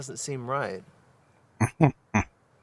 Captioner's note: chuckling